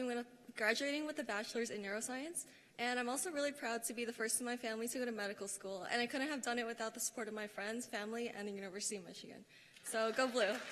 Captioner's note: cheers and applause